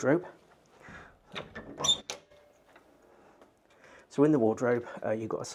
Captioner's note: wardrobe door clunking